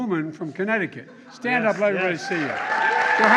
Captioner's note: applause